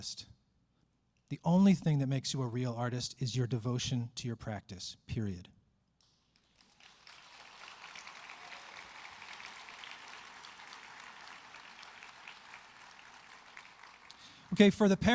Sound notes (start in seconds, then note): 12.6 applause